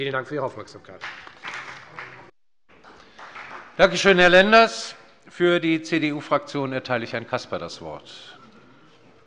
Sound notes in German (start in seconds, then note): 2.8 Beifall bei der FDP